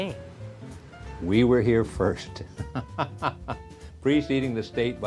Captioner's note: laughs